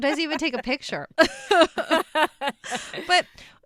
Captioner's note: laugh